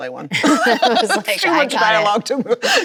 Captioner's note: both laughing